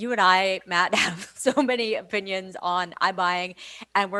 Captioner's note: laughs